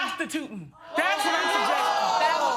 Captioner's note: audience exclaiming